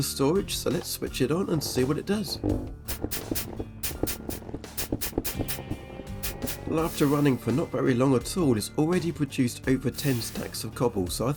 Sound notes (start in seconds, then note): 4.0 Cobble generating noises